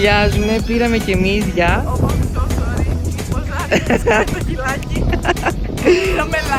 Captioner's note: giggles